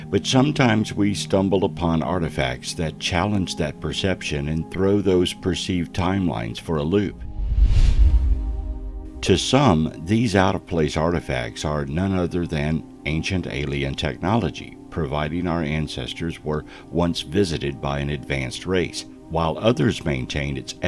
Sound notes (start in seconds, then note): 7.1 air whooshing